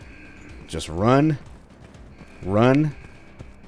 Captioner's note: klaxon continues blaring